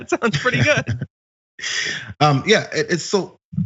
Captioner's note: laugh